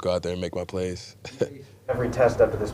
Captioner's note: laughs